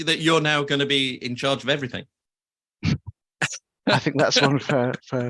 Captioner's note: laughs